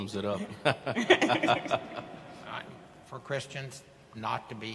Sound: panelists chuckling

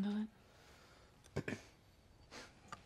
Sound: quick cough

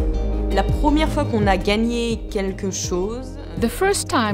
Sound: speaking french

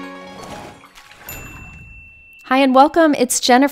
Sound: water splashes; bell dings

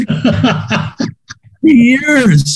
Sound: laughs

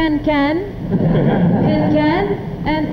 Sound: audience laughing

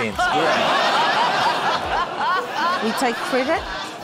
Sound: laughter

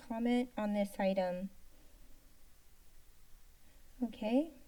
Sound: silence

